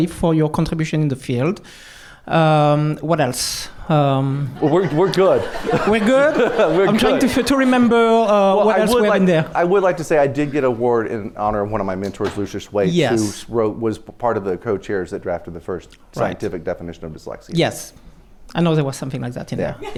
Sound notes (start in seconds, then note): 4.5 laughter